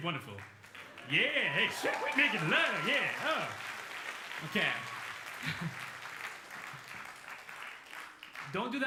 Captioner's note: laughs